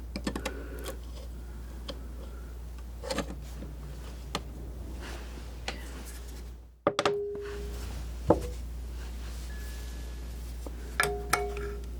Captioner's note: scratching